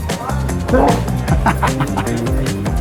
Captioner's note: sneezes